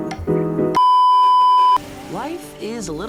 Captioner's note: beeeeeep